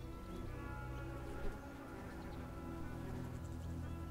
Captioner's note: insect buzzes